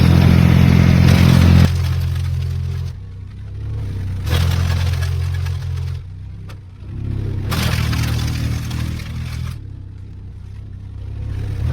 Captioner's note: tractor sound